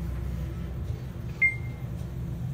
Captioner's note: beep